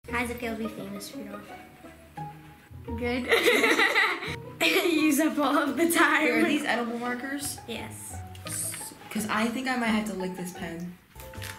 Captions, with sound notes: - How's it feel to be famous, Rudolph? - Good (all laughing). - Use up all of the time (laughing). - Wait are these edible markers? - Yes. - 'Cause I think I might have to lick this pen.